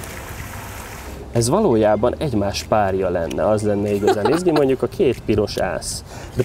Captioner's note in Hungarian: nevetés